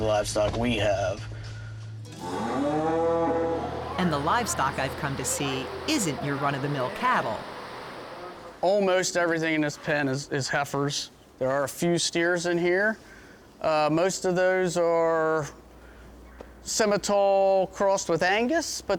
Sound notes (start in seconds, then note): 2.1 cow mooing